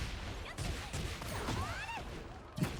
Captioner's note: gun firing